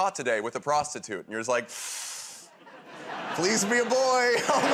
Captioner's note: inhales sharply